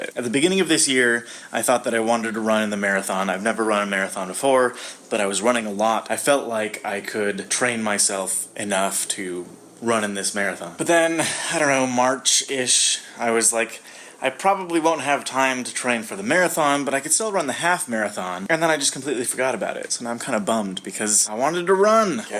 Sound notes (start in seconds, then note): 11.2 sighs